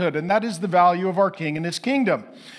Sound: none

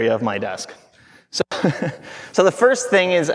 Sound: chuckling

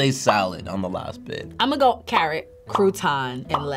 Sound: bubble popping

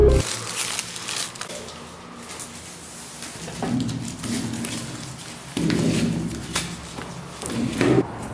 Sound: rustling sound

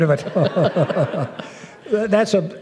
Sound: laughter

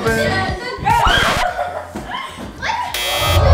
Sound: record scratches; buzzer

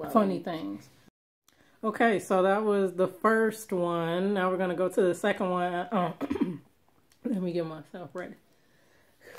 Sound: clears throat

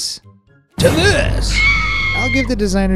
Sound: horrified scream

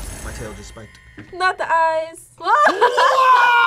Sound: laughs

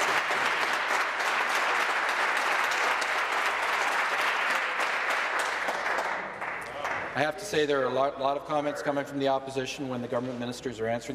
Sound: some Applause

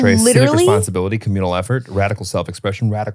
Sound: laugh

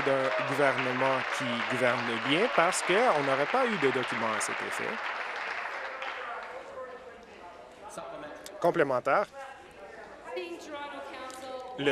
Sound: applause

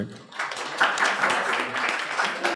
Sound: audience applauds

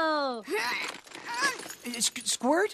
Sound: struggles

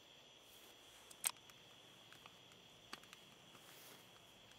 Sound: gun clicks

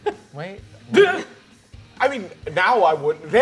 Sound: sobbing

